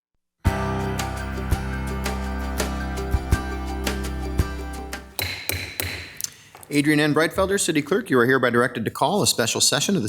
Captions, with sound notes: (upbeat music) (gavel banging) - Adrienne N. Breitfelder, city clerk, you are hereby directed to call a special session